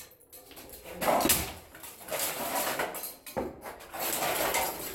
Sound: whacking & clattering

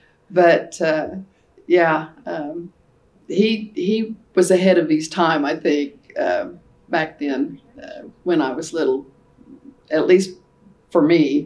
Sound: laughs

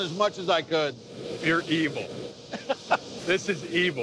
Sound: laughs

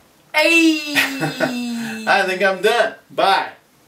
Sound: bad Fonz voice, "Ayeeee"

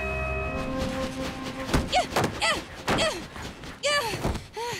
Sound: grunting

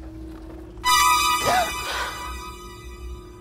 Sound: suspenseful music; gasps

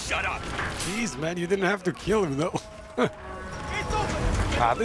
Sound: laughs

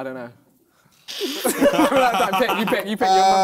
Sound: both laughing

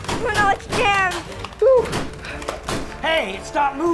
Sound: popping

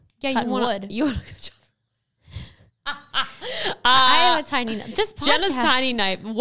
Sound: gently laughing

